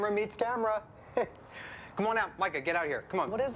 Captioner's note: chuckles